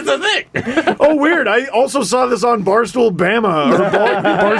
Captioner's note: laughing